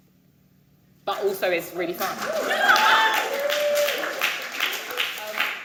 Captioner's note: audience cheering